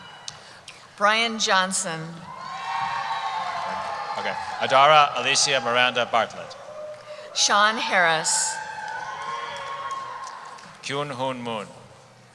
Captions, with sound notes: - Brian Johnson. (cheering) - Adara Alicia Miranda Bartlett. - Sean Harcz. - KyunHoon Moon.